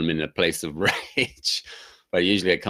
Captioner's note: laughing